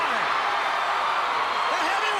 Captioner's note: crowd cheering